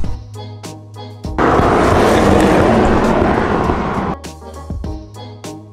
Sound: wind sound

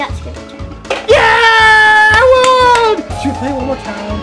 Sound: clapping

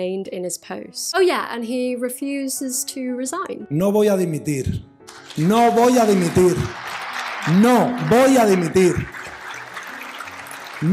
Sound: Rubiales denies responsibility in Spanish

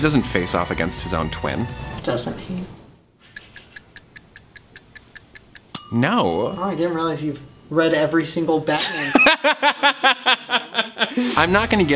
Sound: clock ticking, dings; laughs

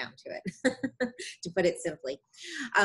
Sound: laughing

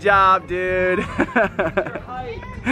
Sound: laughing

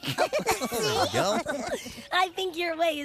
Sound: laughter

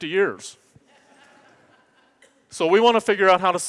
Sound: audience laughs

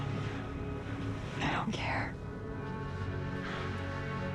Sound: whispering

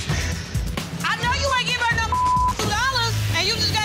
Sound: beep

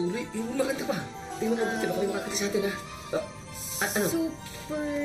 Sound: none

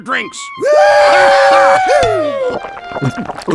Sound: cheer

